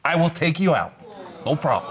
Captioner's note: audience exclaiming